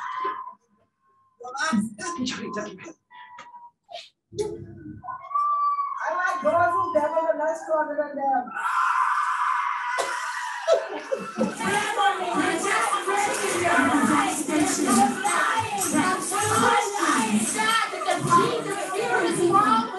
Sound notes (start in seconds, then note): 0.1 protestors screaming; 8.5 demonic screeching; 10.6 laughing; 11.2 protestors chanting and shouting; 17.0 muffled shouting